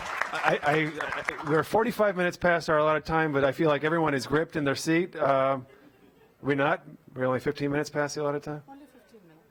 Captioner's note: applause